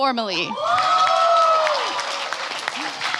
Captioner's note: applause